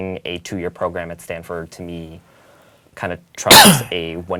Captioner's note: cough